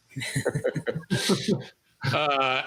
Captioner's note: laughter